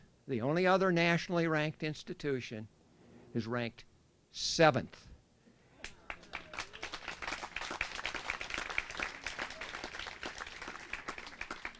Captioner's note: applause